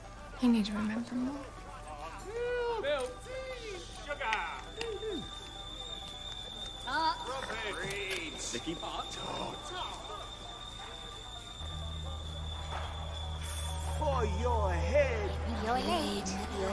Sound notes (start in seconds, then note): 4.7 tea kettle whistling